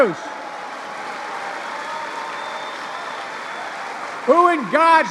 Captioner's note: applause